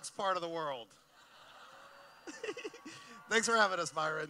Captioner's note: laughing